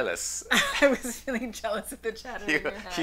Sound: laughs loudly

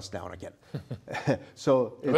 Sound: laughter

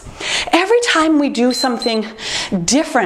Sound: timer beeps

